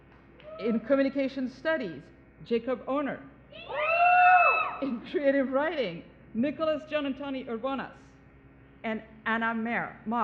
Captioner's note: cheering